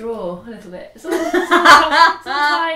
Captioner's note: laughs